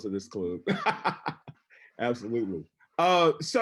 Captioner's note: laughing